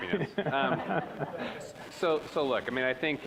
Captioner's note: audience laughing